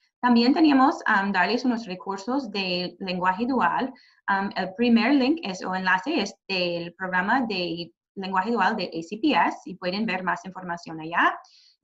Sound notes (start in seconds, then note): 0.8 speaking Spanish